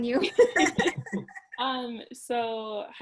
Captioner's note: both laughing